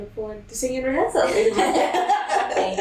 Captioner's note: laughter